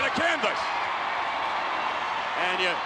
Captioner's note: crowd cheers